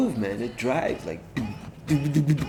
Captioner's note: beatboxes lol